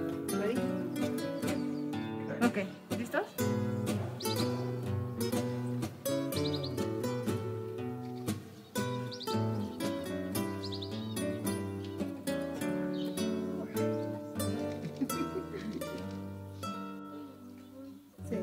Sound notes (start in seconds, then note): 3.4 speaks Spanish; 15.6 chuckling